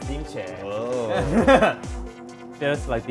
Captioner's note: laughs